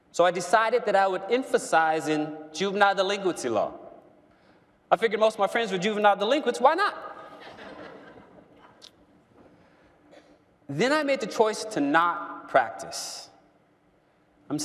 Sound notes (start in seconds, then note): 7.2 laughter